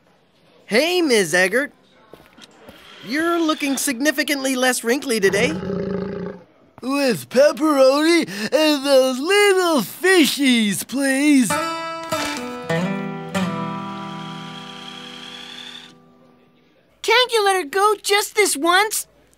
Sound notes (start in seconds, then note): 5.2 growling